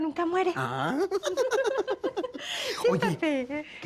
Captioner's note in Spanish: Risas